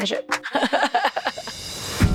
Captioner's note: laughs